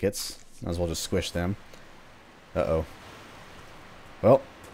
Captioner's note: water rushing in